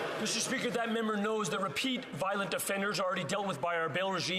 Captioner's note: some Applause